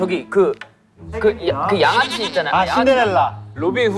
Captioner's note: mispronunciation